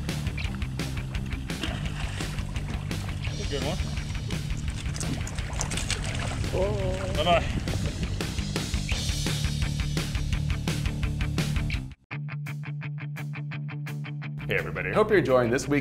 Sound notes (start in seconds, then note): 4.9 clattering